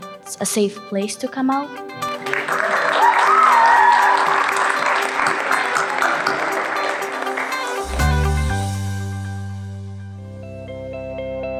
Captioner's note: applause, cheering